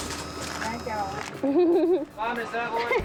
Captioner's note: laughs